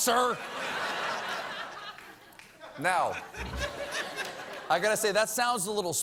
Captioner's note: laughter